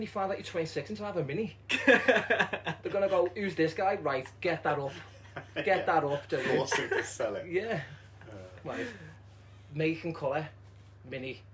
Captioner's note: laughter